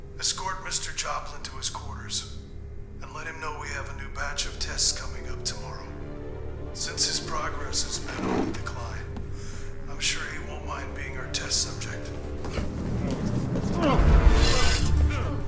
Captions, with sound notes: Escort Mr. Joplin to his quarters. And let him know we have a new batch of tests coming up tomorrow. Since his progress has been on the decline... ...I'm sure he won't mind being our test subject. *grunts*